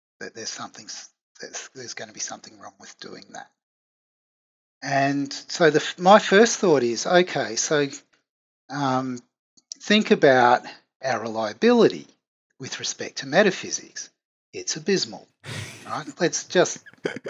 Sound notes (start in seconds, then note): 15.4 laughs